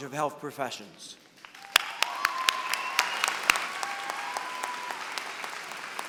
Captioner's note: applause